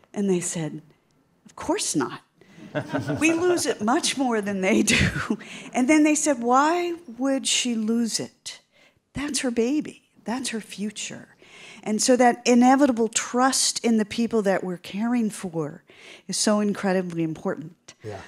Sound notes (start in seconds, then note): 2.6 audience laughing